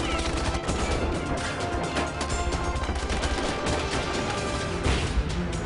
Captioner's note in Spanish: Disparos